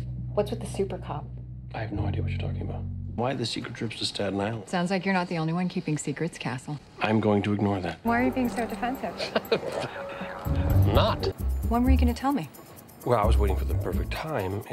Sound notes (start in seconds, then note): 9.0 laughs